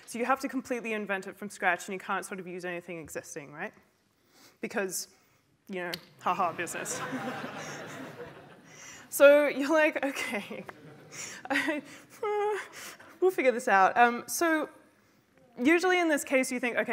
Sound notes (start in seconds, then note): 6.6 laughter; 10.5 laughs; 11.3 fearful sigh